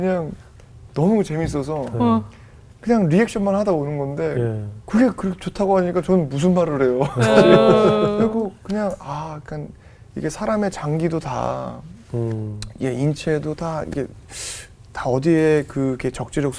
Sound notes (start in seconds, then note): 7.2 laughing